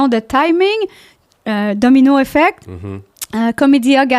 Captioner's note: in french